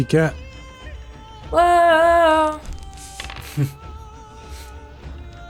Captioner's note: sing songy